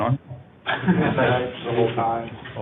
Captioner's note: laughter